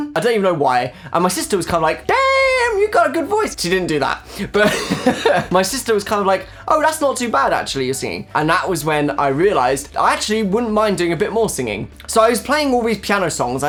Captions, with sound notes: I don't even know why And my sister was kind of like; "DAAAAAMN, you got a good voice!" She didn't do that But - (laughing) My sister was kind of like; "Oh that's not too bad actually, your singing" And that was when I realised: "I actually wouldn't mind doing a bit more singing" So I was playing all these piano songs